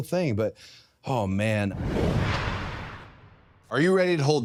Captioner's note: logo whooshing